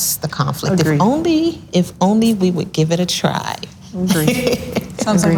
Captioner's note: laughs loudly